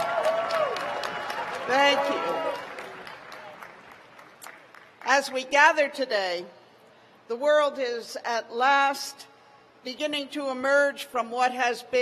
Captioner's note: cheers and applause